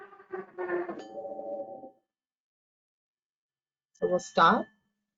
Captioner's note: bell ringing